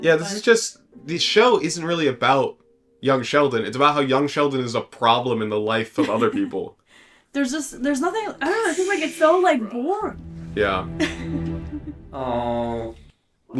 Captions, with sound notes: Yeah, this is just... the show isn't really about young Sheldon. It's about how young Sheldon is a problem in the life of other people. There's just... there's nothing... I don't know, this is like it's so like boring. Yeah. [chuckles] Aww...